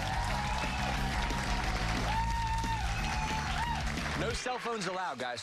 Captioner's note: cheers and applause